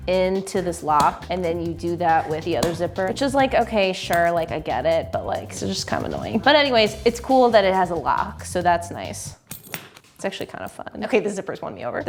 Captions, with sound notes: into this lock and then you do that with the other zipper. Which is like, okay sure, I get it. But it's just kind of annoying. But anyways, it's cool that it has a lock, so that's nice. (clicks lock) It's actually kinda fun. Okay, the zippers won me over.